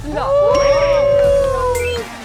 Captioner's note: thunderous cheers